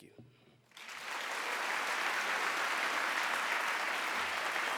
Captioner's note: applause